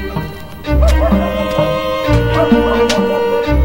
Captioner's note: dog barking